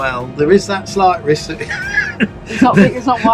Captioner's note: laughs